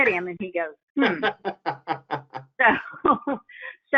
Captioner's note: laughing; laughs